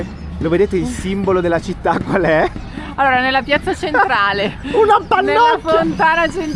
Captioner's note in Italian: risate